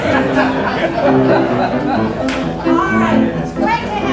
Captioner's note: laughs